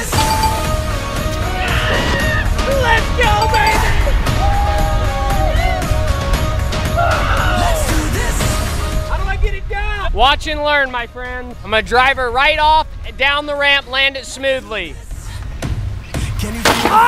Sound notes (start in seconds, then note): 0.0 ding-ding-ding; 1.9 yells